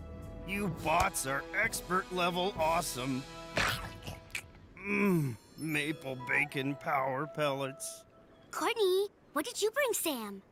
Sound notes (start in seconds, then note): 3.6 chomping